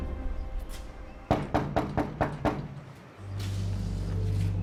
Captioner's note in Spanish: Toques en la puerta